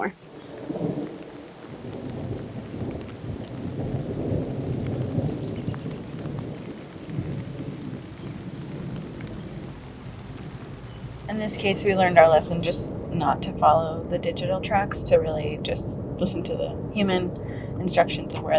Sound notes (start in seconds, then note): 4.5 thunder continues